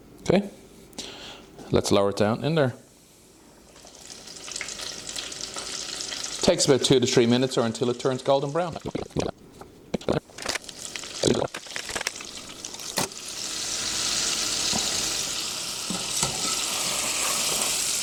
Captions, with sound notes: Okay, let's lower it down in there. Takes about two to three minutes, or until it turns golden brown. (water running)